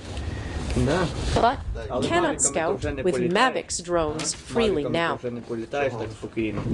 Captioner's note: drones